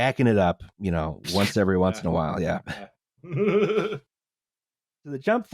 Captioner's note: laughs